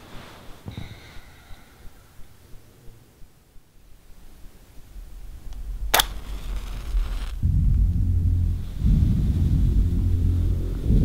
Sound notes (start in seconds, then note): 5.9 match striking; 7.1 ominous music